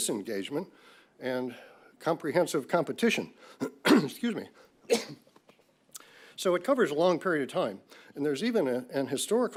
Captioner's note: coughs